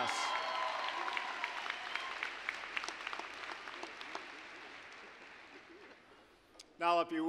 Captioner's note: applause, cheering